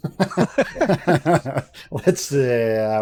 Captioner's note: laughter